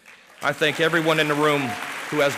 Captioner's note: applause